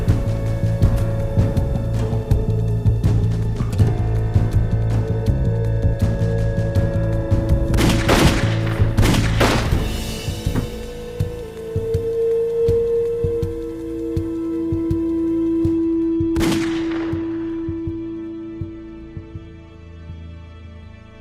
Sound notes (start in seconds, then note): 0.1 dramatic music; 7.7 guns firing; 16.4 gun fires; 18.4 ominous music